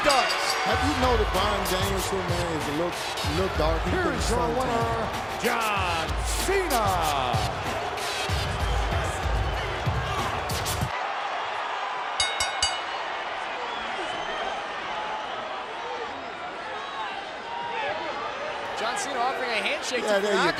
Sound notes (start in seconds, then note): 13.3 applause